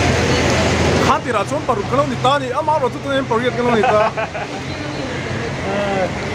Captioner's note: laughing in background